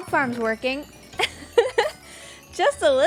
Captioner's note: laughs